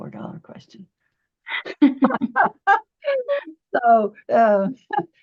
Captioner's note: both laughing